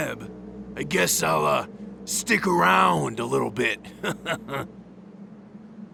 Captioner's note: laughs